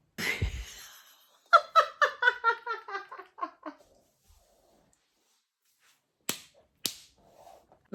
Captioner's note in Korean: 찐으로 웃는